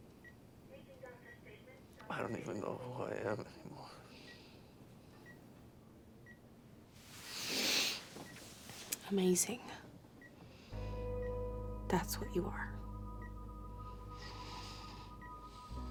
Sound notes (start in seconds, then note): 7.3 Ashley snivels; 13.4 dramatic electronic music